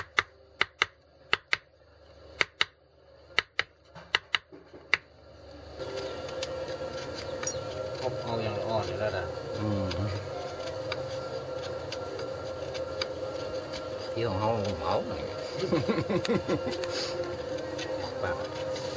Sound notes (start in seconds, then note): 1.3 tapping; 9.8 guide speaking in Thai; 15.4 blacksmith laughing